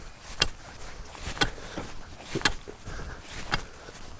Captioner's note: shoveling dirt